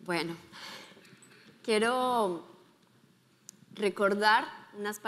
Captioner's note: speaking in foreign language